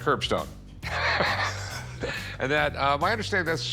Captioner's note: laughing